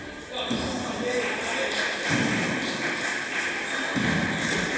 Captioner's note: applause